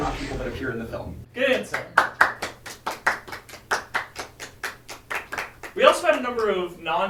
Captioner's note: applause